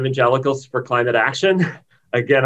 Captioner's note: laughs